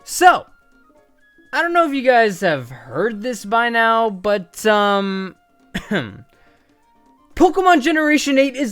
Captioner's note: cough